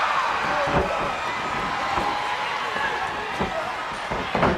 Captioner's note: crowd chatter